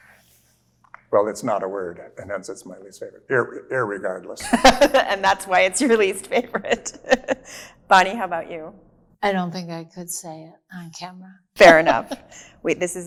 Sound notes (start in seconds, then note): 6.6 laughs